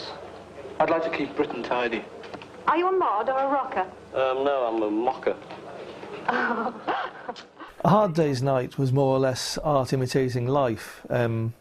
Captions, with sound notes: Yes. I'd like to keep Britain tidy. Are you a mod or a rocker? No, I'm a mocker. [Chuckles] A Hard Day's Night was more or less art imitating life,